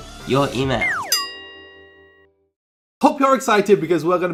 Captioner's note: bell dings